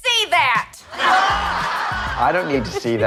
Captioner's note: laughter